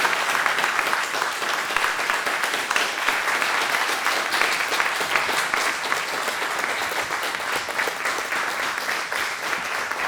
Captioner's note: applause